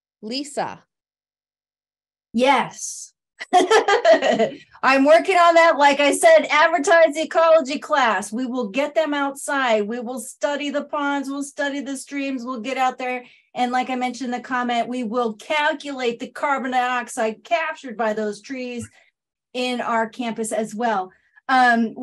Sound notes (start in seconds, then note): 3.5 laugh